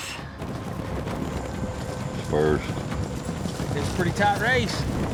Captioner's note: fast hoofbeats